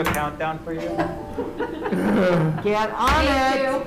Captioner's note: laughter